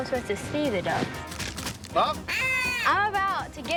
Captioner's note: ducks crunching; blows duck call